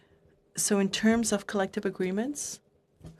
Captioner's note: speaking French